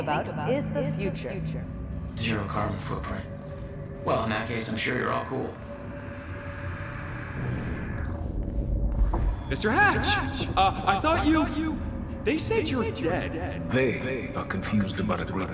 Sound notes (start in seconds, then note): 2.3 mocking; 9.8 as an echo from the past